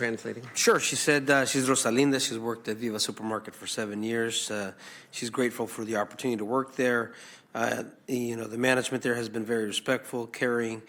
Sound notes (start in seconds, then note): 0.0 some Applause